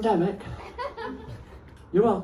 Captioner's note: laughter